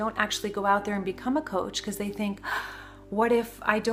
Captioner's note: gasps